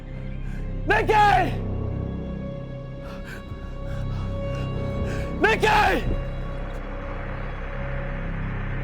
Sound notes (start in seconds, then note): 3.0 Arawn panting; 6.2 tense music